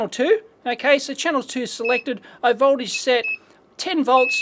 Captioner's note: beeps